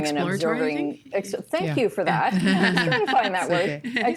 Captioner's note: laughing